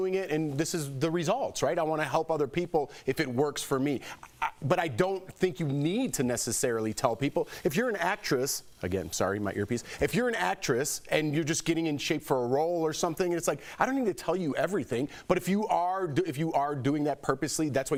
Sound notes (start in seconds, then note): 4.2 laughter